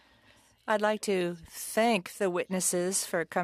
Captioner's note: speaking French